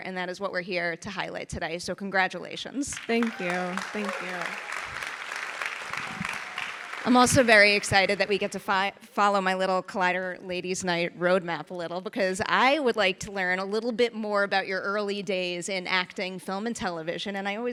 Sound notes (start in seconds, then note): 2.9 audience applauding